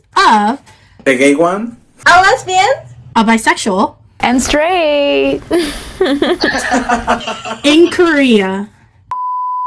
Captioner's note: laughing